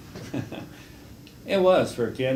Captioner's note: laughs